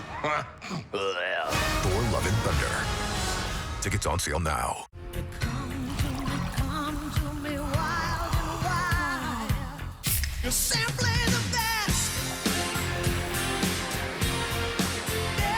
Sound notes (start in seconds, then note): 0.1 laughing, retching; 10.8 click